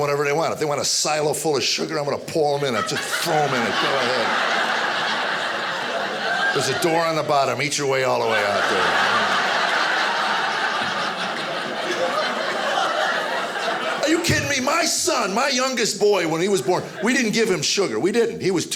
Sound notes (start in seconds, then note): 4.4 audience laughing; 9.0 audience laughing